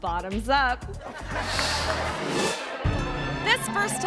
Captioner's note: audience laughing; screen whooshes